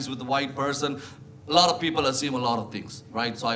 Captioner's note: none